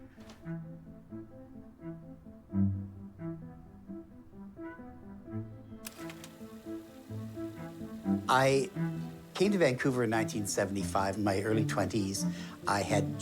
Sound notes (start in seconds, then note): 0.3 pulsing dramatic music; 5.8 projector clicks